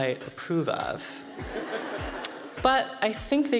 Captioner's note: crowd laughs